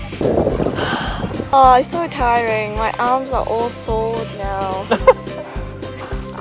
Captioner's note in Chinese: 哈哈